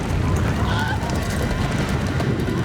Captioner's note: screams